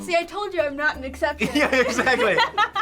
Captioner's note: laughing